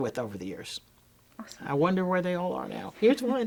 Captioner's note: hands smacking